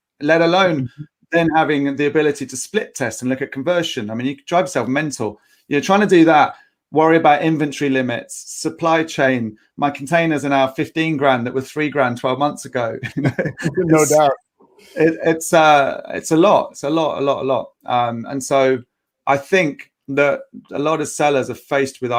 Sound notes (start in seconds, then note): 13.0 laughing